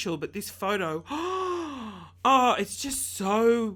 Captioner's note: gasping